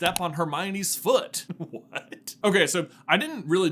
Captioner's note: giggles